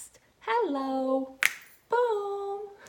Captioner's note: fingers snapping